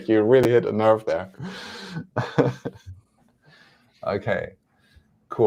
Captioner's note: chuckles